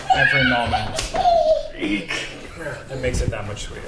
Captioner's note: baby babbles